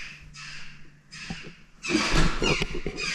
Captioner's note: squawking